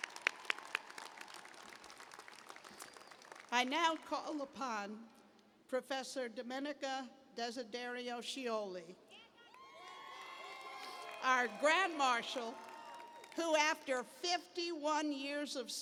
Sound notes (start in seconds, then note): 9.4 cheers